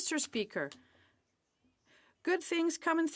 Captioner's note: speaking French